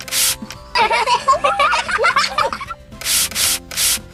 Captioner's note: laughing